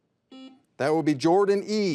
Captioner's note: buzzer buzzes